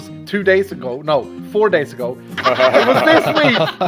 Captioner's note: laughter